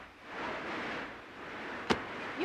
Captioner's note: berkedip statis